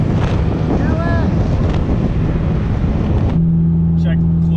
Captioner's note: wind drowns out voice